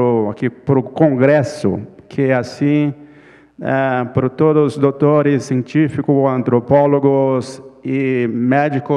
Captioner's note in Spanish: Ponente habla en portugués